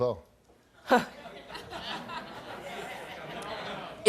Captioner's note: laughing